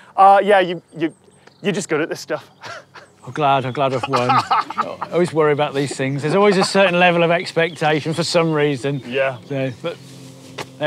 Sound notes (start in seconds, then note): 2.4 laughs